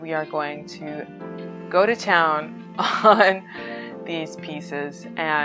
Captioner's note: laughs